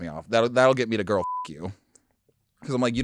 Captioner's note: beep